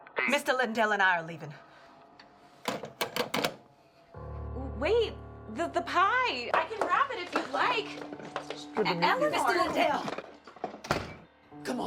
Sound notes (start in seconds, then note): 2.7 phone clicks; 4.2 dramatic music